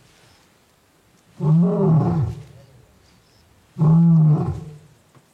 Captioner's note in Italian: leone ruggisce